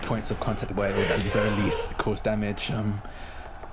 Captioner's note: distorted cries